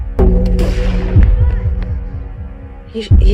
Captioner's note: gunshot firing